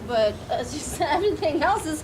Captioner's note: laughing